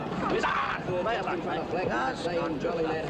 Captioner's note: aggravated growl